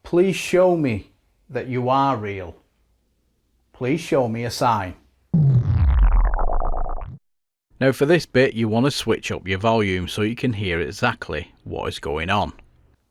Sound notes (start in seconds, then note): 5.4 sound FX; 12.8 silence